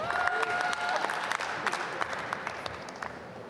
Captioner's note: applause